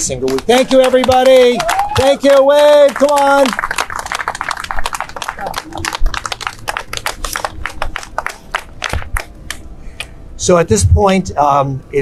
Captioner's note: clapping